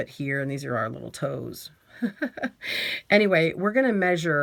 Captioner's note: laughs